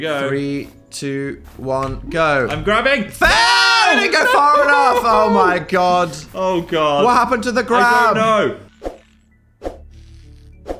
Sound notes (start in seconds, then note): 3.2 screams